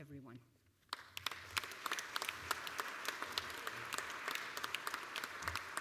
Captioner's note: applause